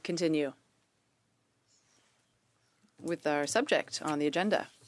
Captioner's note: speaking French